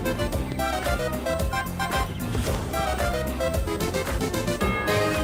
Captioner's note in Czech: veselá hudba pokračuje; bouchání ohňostrojů